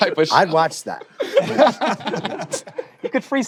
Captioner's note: laughter